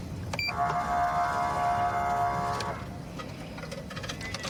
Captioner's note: horn blaring